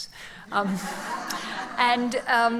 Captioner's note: laughs